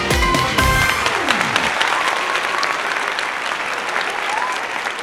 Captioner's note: audience applauding